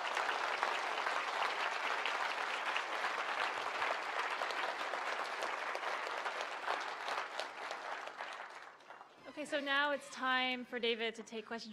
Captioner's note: applause